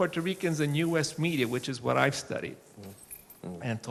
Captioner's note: none